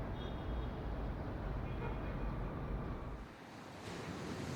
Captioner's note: traffic horns honking